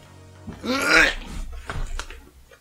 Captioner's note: retches